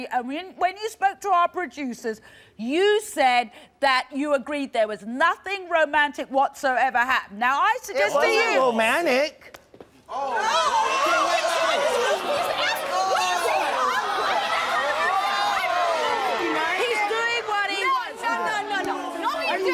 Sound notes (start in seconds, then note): 13.3 yelling